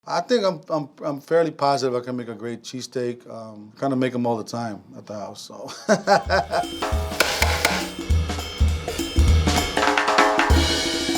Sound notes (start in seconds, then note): 5.7 laughing; 6.4 tapping grill; 8.3 jazzy music